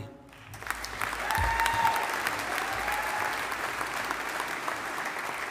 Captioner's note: audience applauding